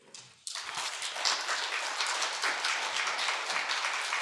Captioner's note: audience applauding